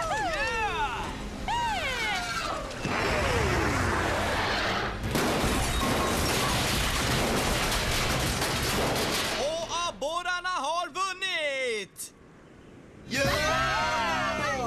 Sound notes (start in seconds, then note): 5.0 crashing; 13.1 cheering